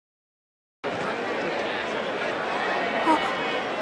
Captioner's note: mutter... mutter